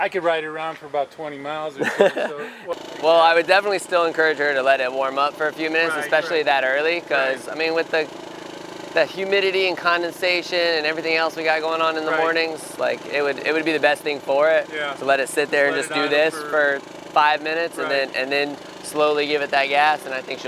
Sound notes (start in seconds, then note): 1.8 laughs